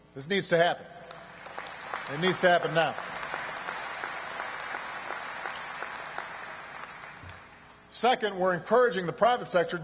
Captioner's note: applause